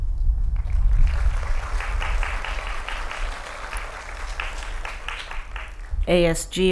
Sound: applause

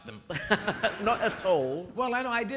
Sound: audience laughing

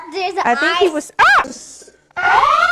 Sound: yells; slow motion yelling

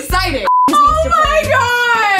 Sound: beeps

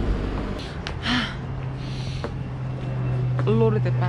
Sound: taking deep breathe

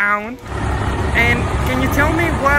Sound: engine rumbling

